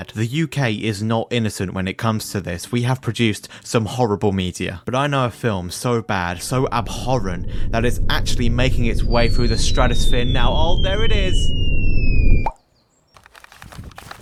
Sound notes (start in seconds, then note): 10.2 rumble; 11.7 falling whistle; 11.7 rumble